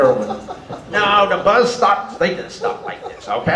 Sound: audience laughter

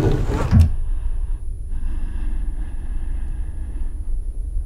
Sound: breathing heavily

